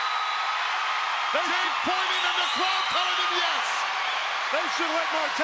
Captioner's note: crowd cheering continues; crowd cheering drowns out commentator